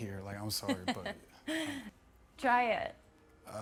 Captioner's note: laughing